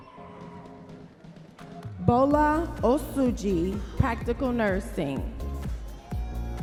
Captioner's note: audience members cheering